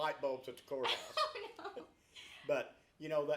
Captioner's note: laughs